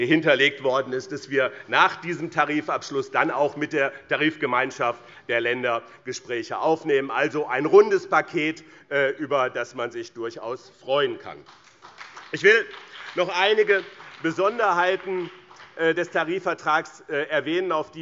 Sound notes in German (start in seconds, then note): 11.3 Beifall BÜNDNIS 90/DIE GRÜNEN